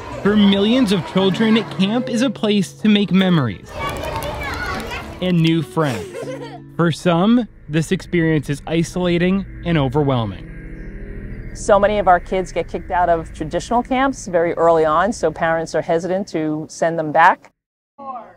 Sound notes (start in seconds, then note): 3.6 children chattering